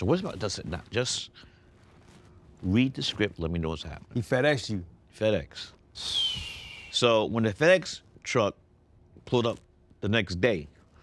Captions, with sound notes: I said, "What's it about?" "Just read the script, let me know what's happening." - He FedExed you? - FedEx. (Ryan whistles) So when the FedEx truck pulled up the next day,